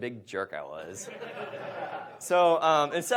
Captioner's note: audience laughs